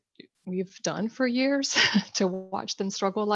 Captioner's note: chuckles